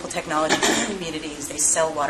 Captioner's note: cough